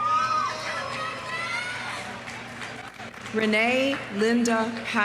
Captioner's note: audience cheering; audience applauding